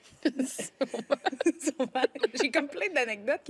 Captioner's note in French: rires